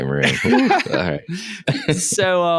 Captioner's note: laughing